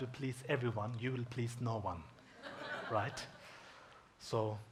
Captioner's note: audience chuckles